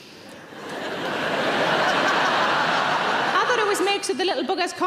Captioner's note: audience laughing